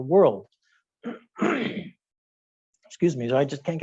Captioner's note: clearing throat